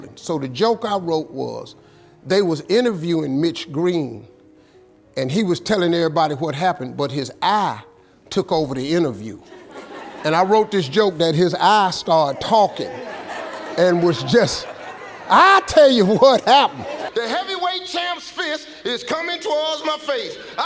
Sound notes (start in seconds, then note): 9.5 audience laughing